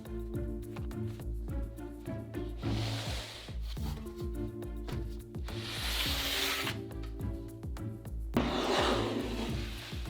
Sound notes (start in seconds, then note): 2.6 pan sliding; 8.4 pan sliding